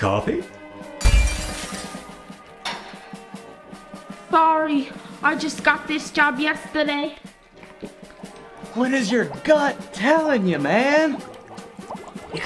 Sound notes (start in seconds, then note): 1.0 cookware smashing